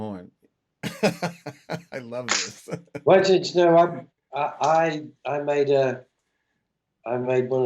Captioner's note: laughter